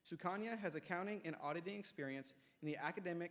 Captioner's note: none